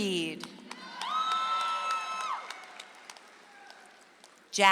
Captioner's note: audience applauds